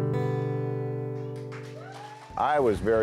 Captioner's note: cheers & applause